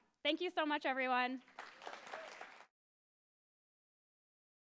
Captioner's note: clapping